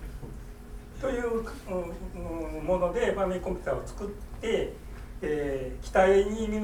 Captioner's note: speaking in foreign language